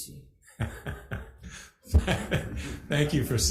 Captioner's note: laughs